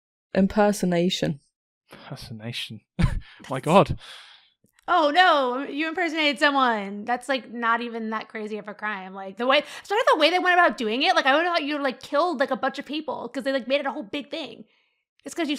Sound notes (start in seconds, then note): 5.4 sarcastically